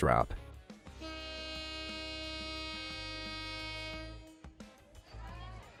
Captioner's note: train horn honking